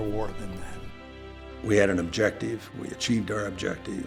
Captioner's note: voiceover